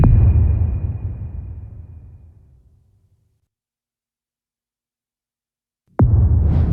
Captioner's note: dramatic sound